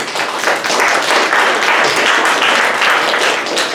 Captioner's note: audience applauds